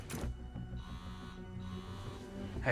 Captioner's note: phone vibrates